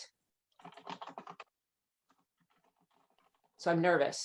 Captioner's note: keyboard keys clicking